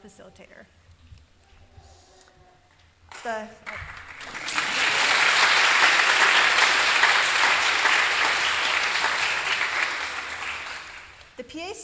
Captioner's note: applause